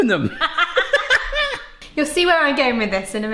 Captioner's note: laughing